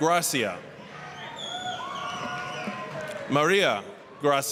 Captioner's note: applause, cheering